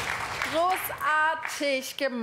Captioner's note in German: Applaus